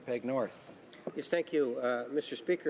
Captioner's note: speaking French